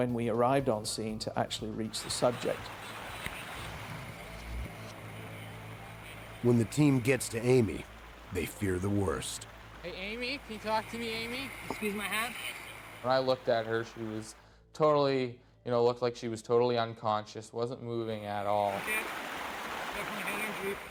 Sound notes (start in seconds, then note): 11.7 voiceover